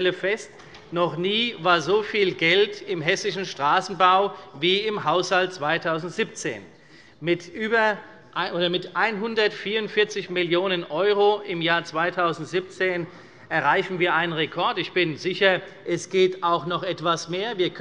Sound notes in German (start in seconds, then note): none